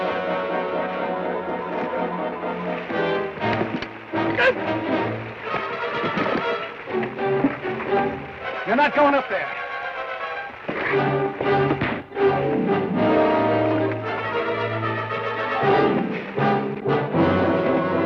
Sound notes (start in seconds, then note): 4.5 Ben grunts; 11.6 thud; 14.2 dramatic orchestral music